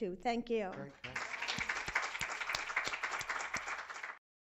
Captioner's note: applause